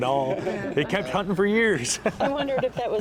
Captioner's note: laughs